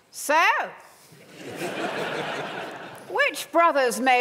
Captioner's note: laughter